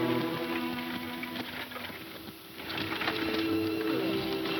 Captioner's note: horses trot